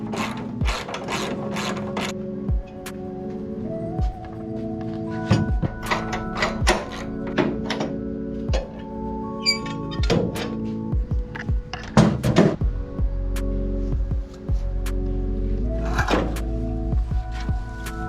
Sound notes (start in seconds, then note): 7.1 haha